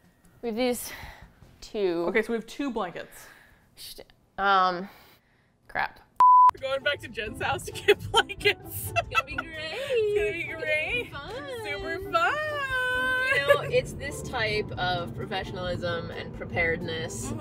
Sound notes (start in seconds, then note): 7.8 laughs